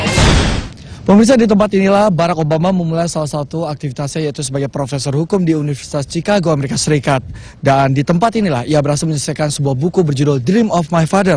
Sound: non-english speech

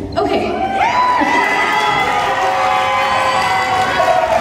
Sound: cheering

